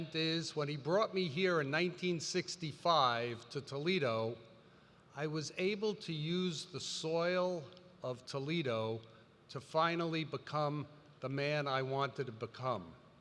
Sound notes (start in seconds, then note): none